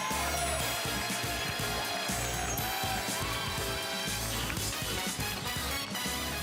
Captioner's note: cheers and applause